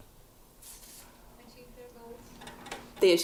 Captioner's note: voiceover